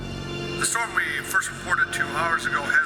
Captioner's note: radio Announcer